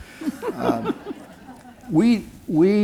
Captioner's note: laughter